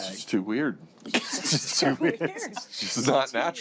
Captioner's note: laughter